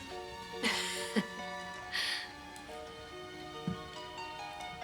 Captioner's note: Rebecca chuckles; calm romantic music